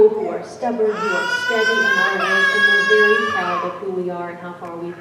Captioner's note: baby cries